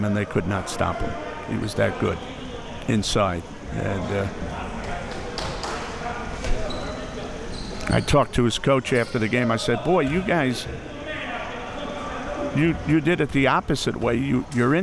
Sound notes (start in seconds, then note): 4.8 audience chattering and yelling